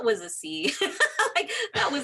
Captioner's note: laughing